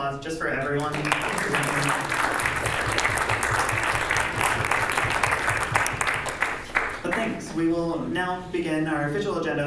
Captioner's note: clapping